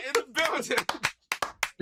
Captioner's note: clapping